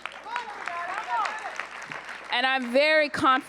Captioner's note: applause